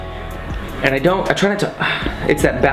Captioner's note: sighs